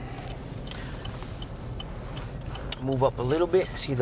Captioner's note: indicator blinking